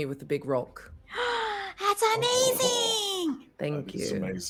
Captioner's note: gasps